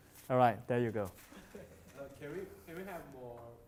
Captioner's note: sighs